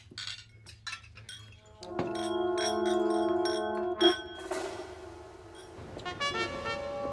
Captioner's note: glasses clink; soft tense music